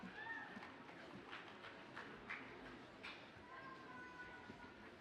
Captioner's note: audience applauds faintly